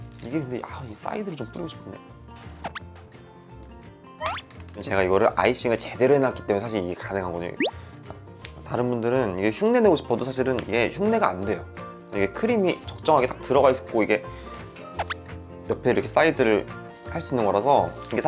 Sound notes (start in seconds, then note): 2.6 plop plop; 4.2 plop; 15.0 ploop